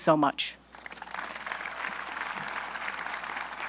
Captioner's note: applause